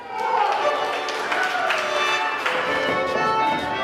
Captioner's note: cheering